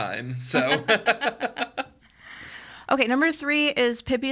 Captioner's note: podcasters laughing